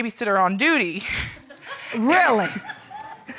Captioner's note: audience laughs